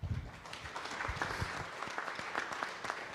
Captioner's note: applause